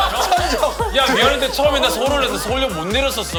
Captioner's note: teary